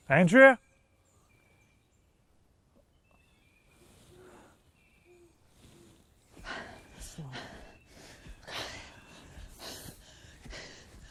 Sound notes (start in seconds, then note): 7.2 Andrea gasping